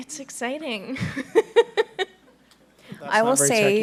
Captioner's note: laughing